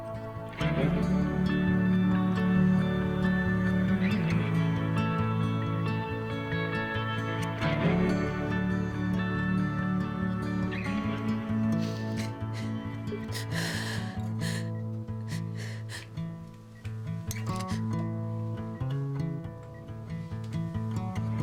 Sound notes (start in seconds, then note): 0.9 pleasant vocals over hopeful acoustic rock music; 11.7 Ashley sobbing; 17.8 pleasant, flowing guitar